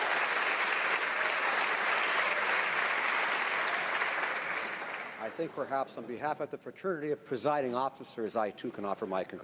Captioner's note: some Applause